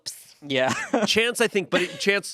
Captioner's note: laughs